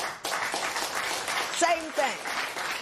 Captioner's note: applause